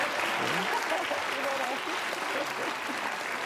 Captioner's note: applause